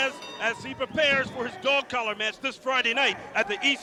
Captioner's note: crowd cheering